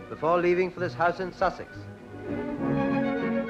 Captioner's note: voiceover